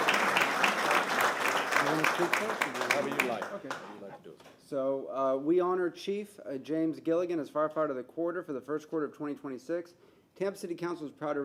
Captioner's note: applause